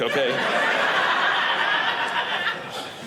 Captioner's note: audience laughing